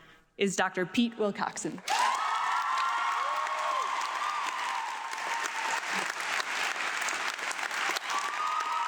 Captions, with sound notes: is Doctor Peter Wilcoxen. (audience applauding)